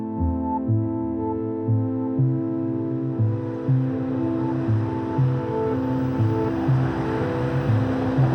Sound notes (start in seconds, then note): 0.0 pensive music continues; 4.5 cars rushing